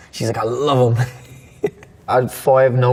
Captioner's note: laughing